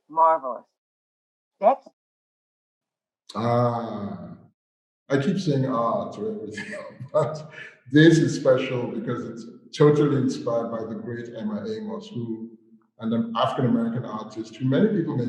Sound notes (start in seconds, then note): 5.1 laughs